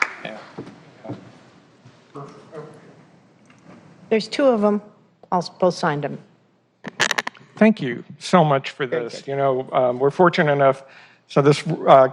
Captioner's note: applause